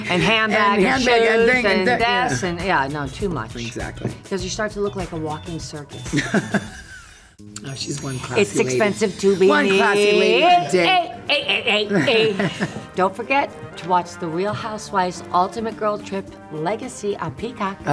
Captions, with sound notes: - And handbag and shoes and this and... Yeah, no. Too much. - Exactly. - 'Cause you start to look like a walking circus. - Oh, she's one classy lady. - It's expensive to be... E-E-E-E-E-E-E. (laughs) Don't forget to watch the Real Housewives Ultimate Girl Trip Legacy on Peacock.